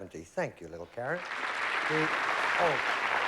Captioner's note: applause